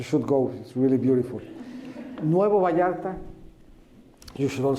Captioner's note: laughter